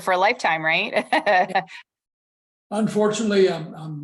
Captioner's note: laughter